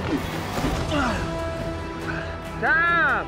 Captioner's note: groans